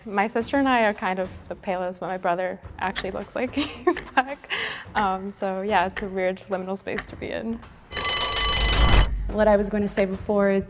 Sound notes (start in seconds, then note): 3.6 chuckles; 7.9 timer rings